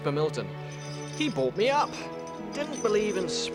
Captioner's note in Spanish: traqueteo de la cadena